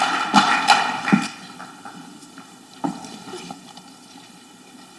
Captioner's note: footsteps thudding